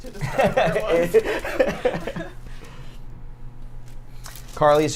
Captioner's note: laughs